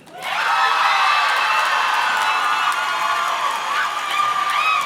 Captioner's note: audience cheers and claps